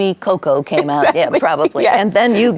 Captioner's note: laughs